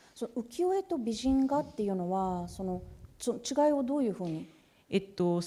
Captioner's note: speaking japanese